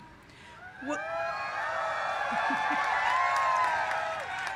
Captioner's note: cheers